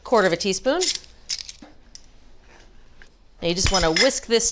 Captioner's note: spoons rattling